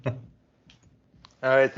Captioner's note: chuckling